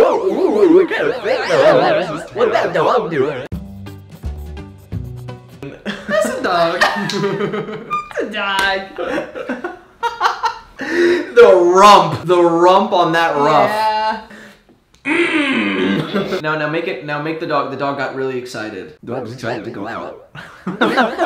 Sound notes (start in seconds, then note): 4.0 upbeat guitar music; 10.2 laughing; 15.0 grunting